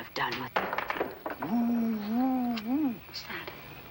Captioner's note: man mimicking an owl